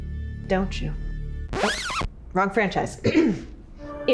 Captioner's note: record scratches; clears throat